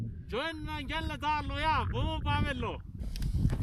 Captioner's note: shouting